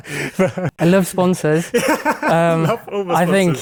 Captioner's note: laughing